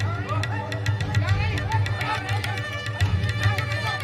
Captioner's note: yelling continues